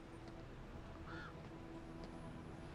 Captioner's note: bird cawing